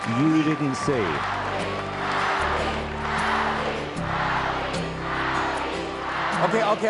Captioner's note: Crowd Chants "Abby!"